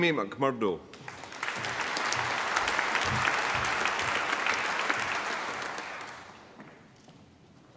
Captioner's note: applause